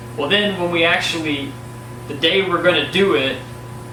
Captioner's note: none